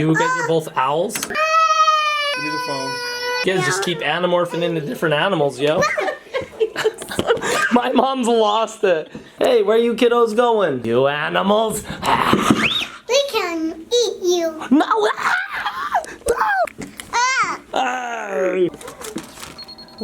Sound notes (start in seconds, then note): 1.3 screaming; 5.8 woman's laughter; 11.8 growling; 12.6 screams; 18.0 squealing